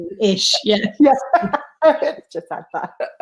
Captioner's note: laughing